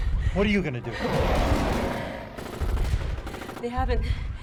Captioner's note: crocodile growling